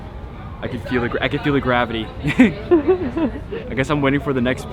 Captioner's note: chuckles